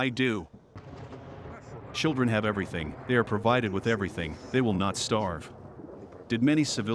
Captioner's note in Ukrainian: гучний вибух неподалік